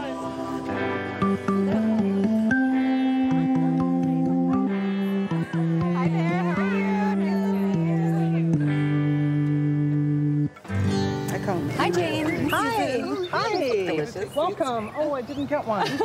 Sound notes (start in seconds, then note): 0.2 organ music playing; 3.5 crowd murmuring; 6.1 voiceover; 15.7 laughing